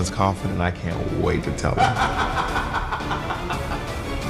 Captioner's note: laughs